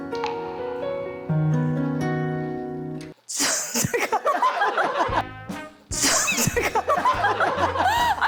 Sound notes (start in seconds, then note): 3.3 pffft; 6.0 failed to hold laughter